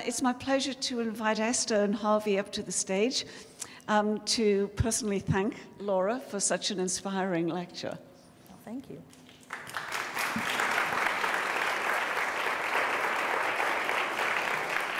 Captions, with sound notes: it's my pleasure to invite Esther and Harvey up to the stage to personally thank Laura for such an inspiring lecture. - Well thank you. (applause)